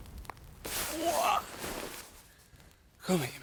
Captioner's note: Jim groaning